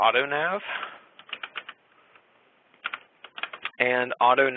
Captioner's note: keyboard typing